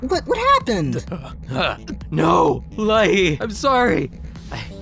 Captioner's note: sputtering